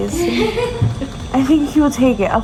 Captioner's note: nurse laughing